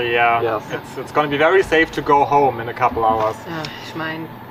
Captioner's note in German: Sarkasmus